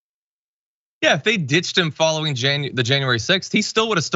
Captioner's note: laugh